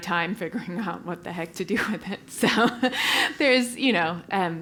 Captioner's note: laugh